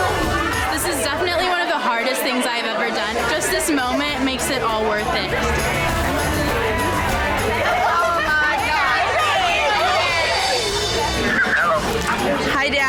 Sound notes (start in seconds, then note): 5.6 upbeat music; 6.4 women cheering; 9.5 upbeat music; 9.5 women cheering